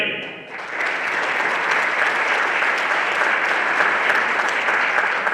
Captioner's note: everyone applauding